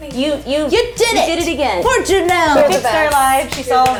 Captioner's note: clapping